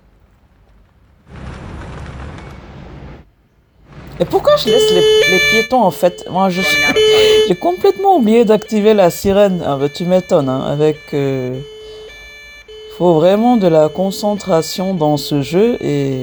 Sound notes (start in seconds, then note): 6.8 laughs